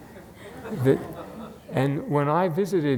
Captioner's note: audience laughs